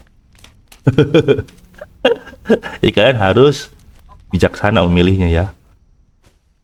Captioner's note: laughs